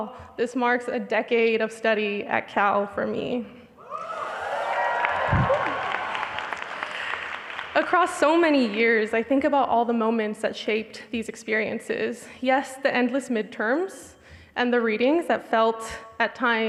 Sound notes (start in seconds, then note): 3.9 audience applauding